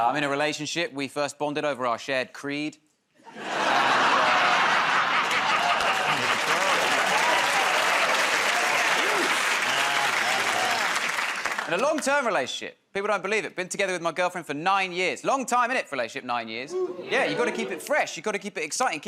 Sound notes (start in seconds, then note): 5.2 laughter; 7.1 applause